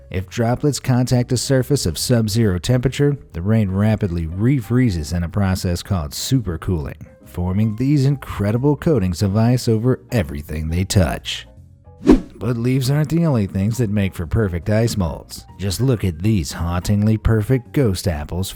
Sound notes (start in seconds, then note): 12.0 whoosh